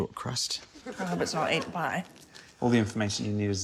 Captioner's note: sniffs